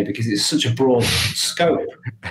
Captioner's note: laughing